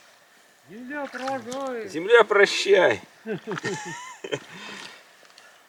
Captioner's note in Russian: смех